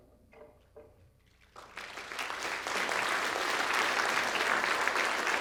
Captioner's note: applause from the crowd